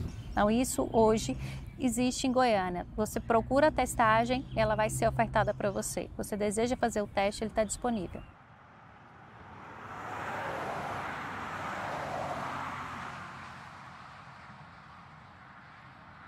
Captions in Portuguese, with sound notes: Isso, hoje, existe em Goiânia. Você procura a testagem e ela vai ser ofertada para você. Você deseja fazer o teste e ele está disponível. [Ruído de veículos]